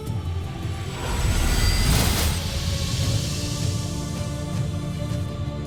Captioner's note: sparkling whoosh; music swells